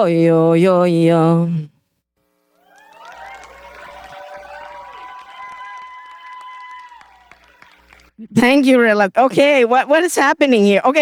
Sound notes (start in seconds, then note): 2.6 applause